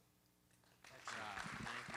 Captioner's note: applause